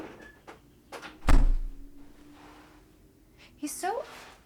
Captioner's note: door thumps shut loudly